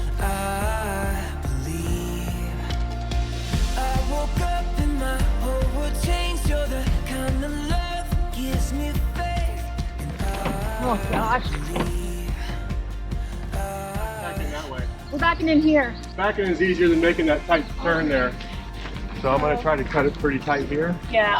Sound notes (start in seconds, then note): 13.0 RV thuds